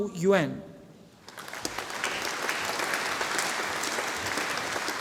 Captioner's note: audience applauding